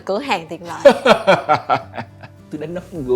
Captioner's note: laugh